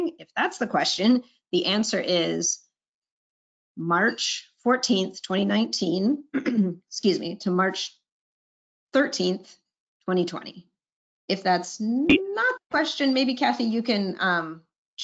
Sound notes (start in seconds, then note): 6.3 clears throat